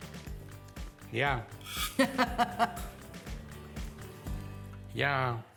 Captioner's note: laughs